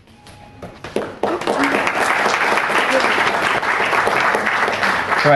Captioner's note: audience applauds